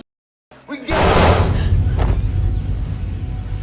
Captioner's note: gun firing; birds chirping